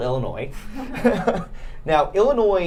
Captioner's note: laughing